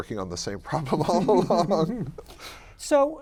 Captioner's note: laughs